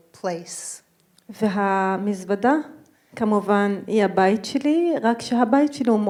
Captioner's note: speaking in foreign language